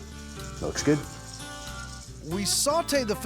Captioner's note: sizzling sound